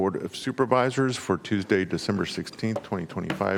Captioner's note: gavel